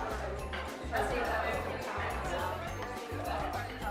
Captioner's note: chatter